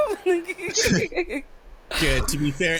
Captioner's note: laughing